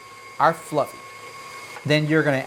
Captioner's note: machine whirring